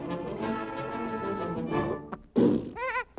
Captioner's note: sneezes; chuckles